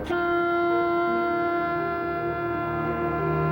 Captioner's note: ship horn